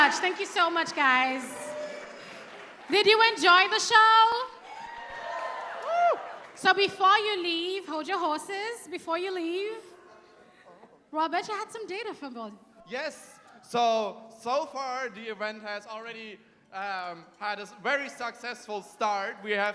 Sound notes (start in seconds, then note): 4.2 cheering